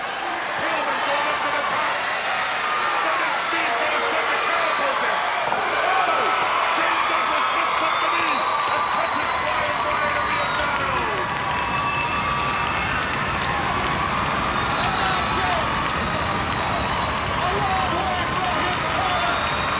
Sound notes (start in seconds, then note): 0.6 crowd cheering; 12.1 crowd cheering